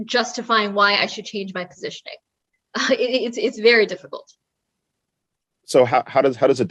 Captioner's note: laugh